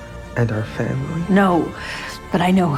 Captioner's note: yelling